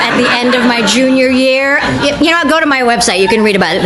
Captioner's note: audience reacts